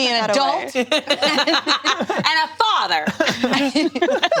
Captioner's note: all laughing